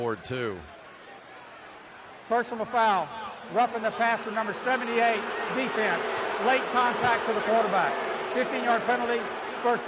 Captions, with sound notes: Jacob Ford too. Personal foul, roughing the passer, number 78, defense. Late contact to the quarterback. [booing] 15-yard penalty.